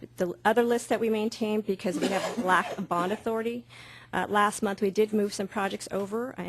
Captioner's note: coughing